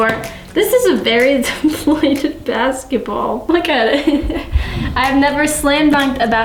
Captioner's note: giggles